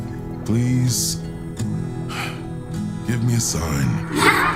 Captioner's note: sigh